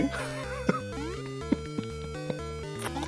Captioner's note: laughs